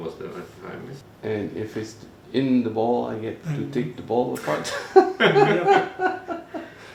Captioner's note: laughter